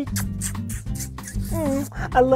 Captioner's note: smooching